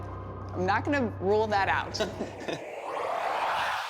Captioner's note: both chuckle